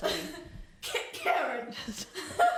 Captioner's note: coughs